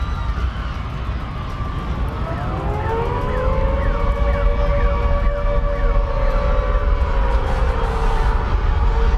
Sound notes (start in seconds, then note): 2.4 people continue screaming; 2.4 sirens blaring